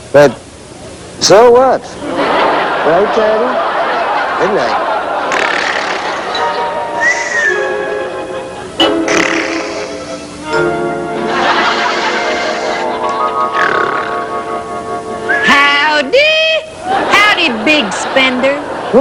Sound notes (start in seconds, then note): 5.4 snoring; 11.2 laughter